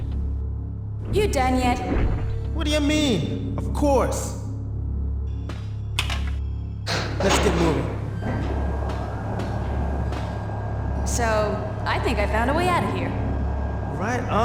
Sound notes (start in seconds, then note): 6.9 lift powers up